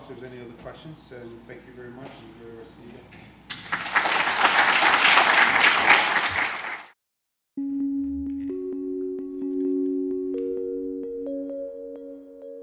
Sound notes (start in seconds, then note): 3.5 audience clapping